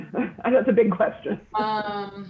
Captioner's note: laughing